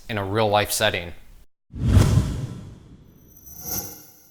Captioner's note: whooshing